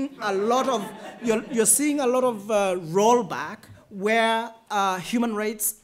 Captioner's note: laughter